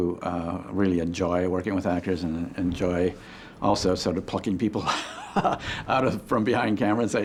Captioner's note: laughs